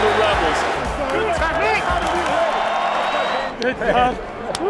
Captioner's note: crowd and players shout